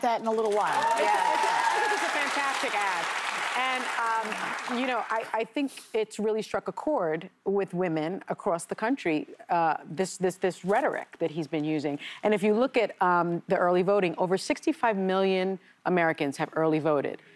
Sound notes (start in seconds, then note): 4.4 cheers and applause